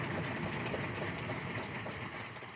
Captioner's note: applause